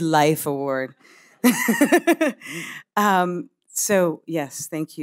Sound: laughing

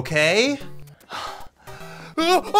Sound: Anthony sighs

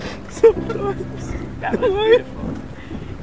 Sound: fake crying

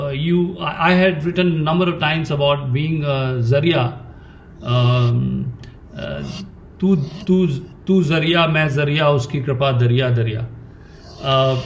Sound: speaks in Hindi – not transcribed

